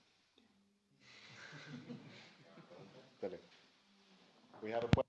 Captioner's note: laughter